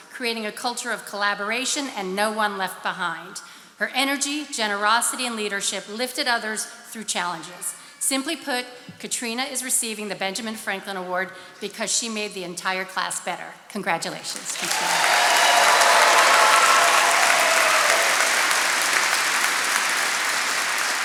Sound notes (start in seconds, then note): 14.2 attendees cheering and applauding